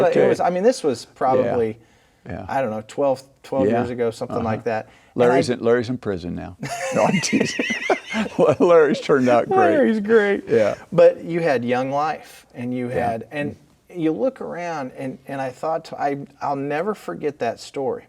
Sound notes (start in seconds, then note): 6.6 laughing